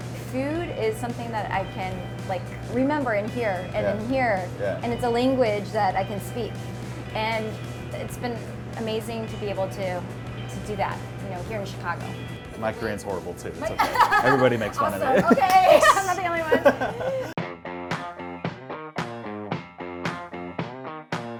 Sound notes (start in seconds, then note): 13.6 laughs; 17.5 upbeat music